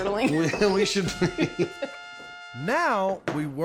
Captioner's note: both laughing